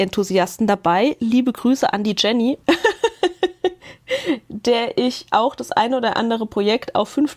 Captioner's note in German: Gelächter